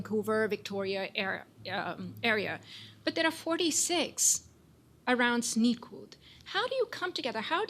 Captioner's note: non-english